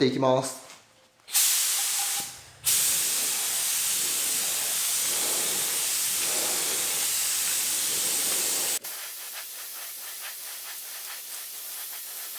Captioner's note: working sound